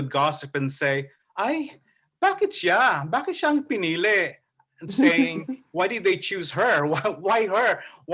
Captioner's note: Tagalog speech